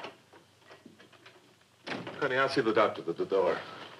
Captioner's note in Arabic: فتح الباب، إغلاقه